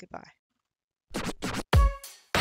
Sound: record scratches; upbeat music playing

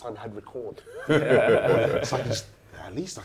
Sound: laughter

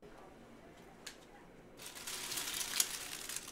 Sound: crinkling flowers

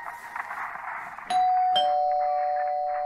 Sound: bell rings

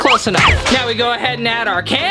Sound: slide whistle

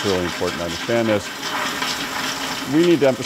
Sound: toilet flush

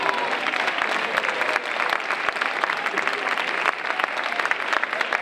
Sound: audience applauding

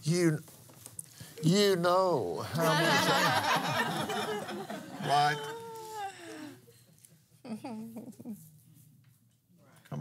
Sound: laughs

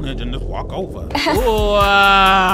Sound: upbeat music; woman laughs

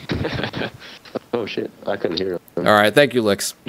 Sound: laughter; voiceover

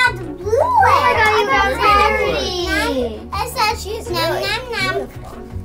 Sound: girls talking excitedly

